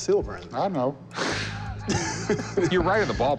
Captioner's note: laughter